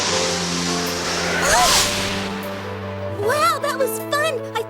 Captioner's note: exclaims